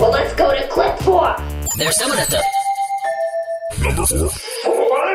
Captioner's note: doorbell